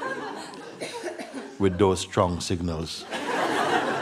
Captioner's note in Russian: смех